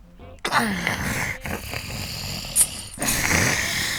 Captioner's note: Brad growling